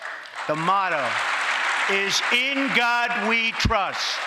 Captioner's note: applause